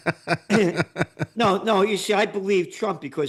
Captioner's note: laughs